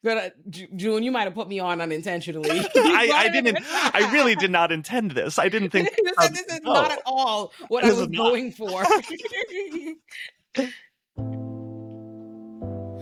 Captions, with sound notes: you might've put me on unintentionally. I really did not intend this. I didn't think-- This is not at all what I was going for. (laughing) (soft music)